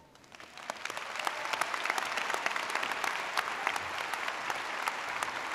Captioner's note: audience applauding